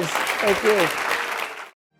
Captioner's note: applause